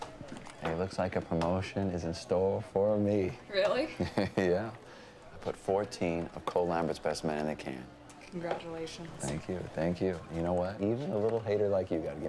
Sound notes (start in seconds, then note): 3.9 chuckles